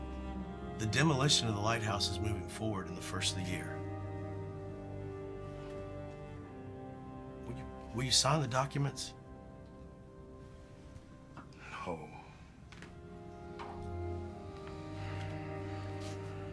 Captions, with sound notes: the demolition of the lighthouse is moving forward in the first of the year. Will you sign the documents? - No (sighs).